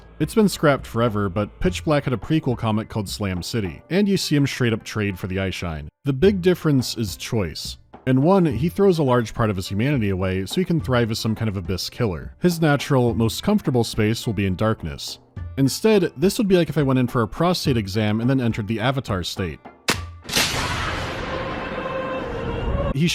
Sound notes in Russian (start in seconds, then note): 19.8 щпок; 19.9 драматичная музыка